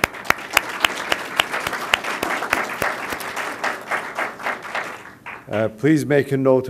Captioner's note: applause